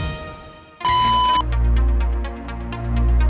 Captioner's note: beeping